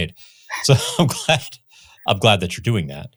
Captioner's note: laughs